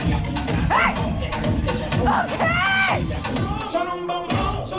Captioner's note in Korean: Complex tutting—check